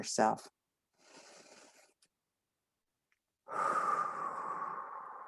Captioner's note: breathing in and out